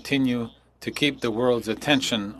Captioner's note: speaking French